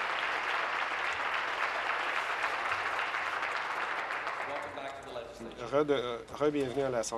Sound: applause

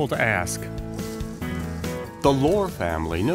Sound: leaves rustling

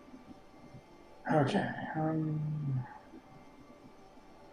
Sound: sighing

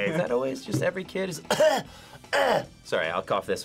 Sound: coughs

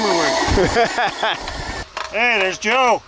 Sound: laughing

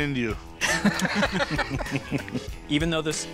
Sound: all laugh

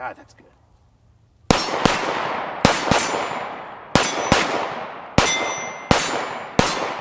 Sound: gun fires

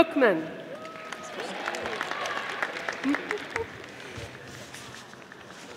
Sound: audience applauding

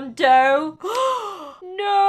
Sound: gasp

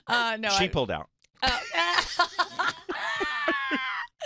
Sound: laughing

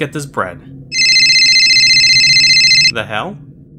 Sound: ringing

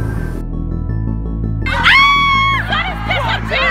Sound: screams

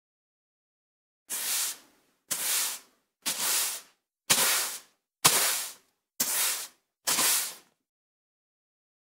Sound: sound of sweeping a wooden floor

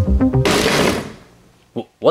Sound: bottle bangs

